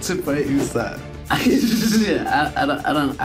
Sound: Jacob laughs

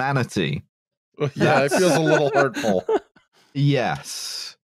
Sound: laughs

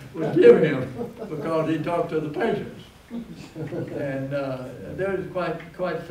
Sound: laughter

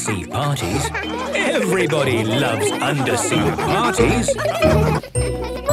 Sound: laughter

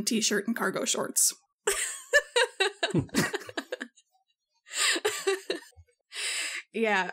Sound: laugh

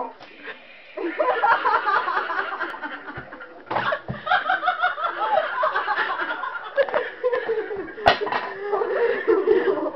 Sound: laughing

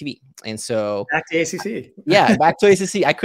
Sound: chuckles

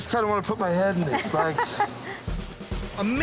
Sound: laughter

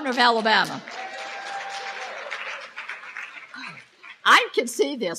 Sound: applause

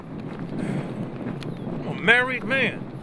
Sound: wind blowing

